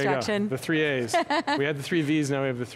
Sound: laughs

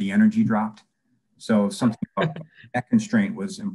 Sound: murmurs

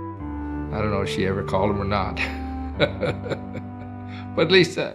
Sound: chuckles

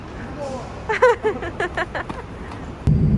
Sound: laughs

